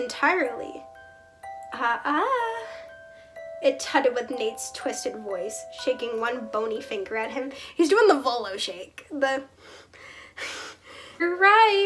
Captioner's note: wheeze